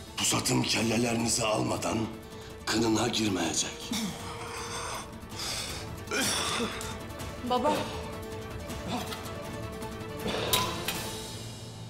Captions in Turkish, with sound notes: ...pusatım kellelerinizi almadan kınına girmeyecek. (Nefes sesi) (Öksürme sesi) Baba. (Hançer atma sesi)